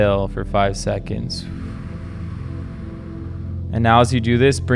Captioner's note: exhales slowly